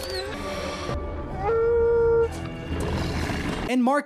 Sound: sad howling

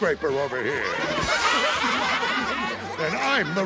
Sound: laughing

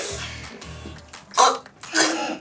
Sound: choking; laughing

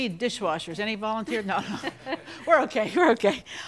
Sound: and crew laugh

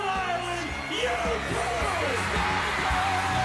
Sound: audience continues screaming

